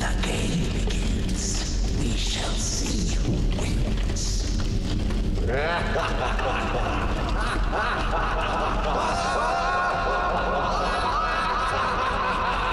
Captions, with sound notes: - The game begins, we shall see who wins. (Lord Ocelotl laughs)